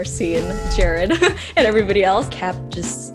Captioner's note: laughs